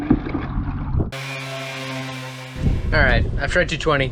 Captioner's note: sander rumbling